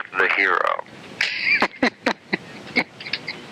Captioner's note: laughter